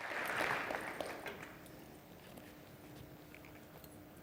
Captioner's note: audience applause